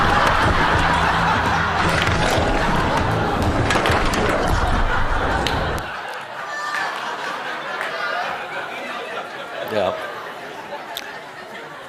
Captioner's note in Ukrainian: Сміх